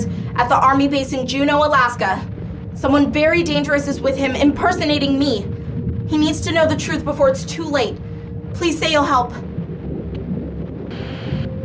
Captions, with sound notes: at the army base in Juneau, Alaska. Someone very dangerous is with him impersonating me. He needs to know the truth before it's too late. Please say you'll help. [Static] No?